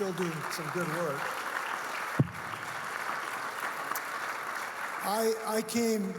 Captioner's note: audience clapping